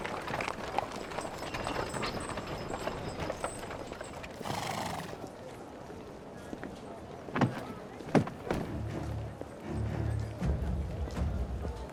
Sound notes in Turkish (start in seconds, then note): 7.1 Kapı açılma sesi; 10.6 Müzik - Gerilim